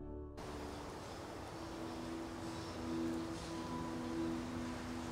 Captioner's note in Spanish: canto de pájaros